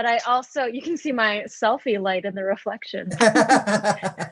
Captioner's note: laughs